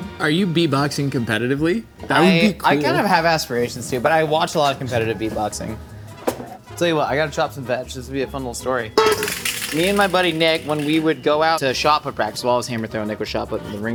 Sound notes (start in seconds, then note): 9.0 bowl rattling; 9.0 bowl clanking